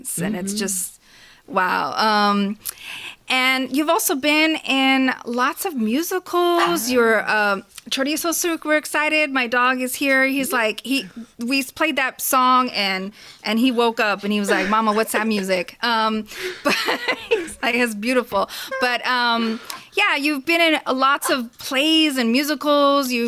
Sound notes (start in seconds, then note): 6.6 Chorizo barks; 13.6 laughs